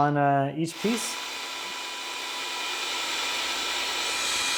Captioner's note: drill whirring